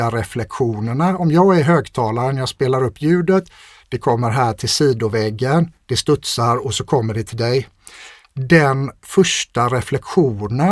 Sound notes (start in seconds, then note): none